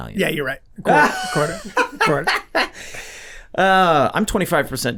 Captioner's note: laughing